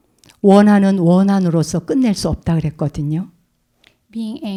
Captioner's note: speaking in Korean